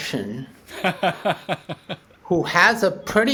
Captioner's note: laughing